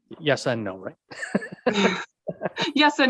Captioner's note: laughing